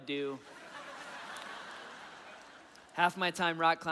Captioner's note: audience laughing